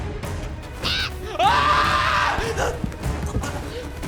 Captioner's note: crow calling; screams